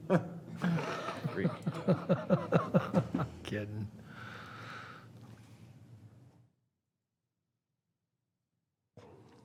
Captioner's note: laughter